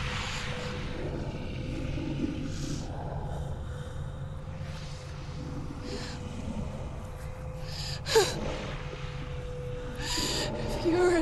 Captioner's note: crying